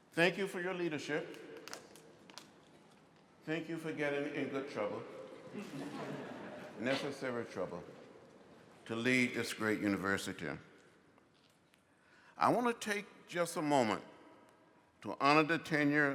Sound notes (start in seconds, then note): 5.4 laughter